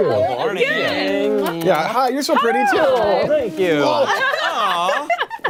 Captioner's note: laughter